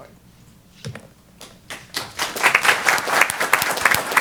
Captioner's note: applause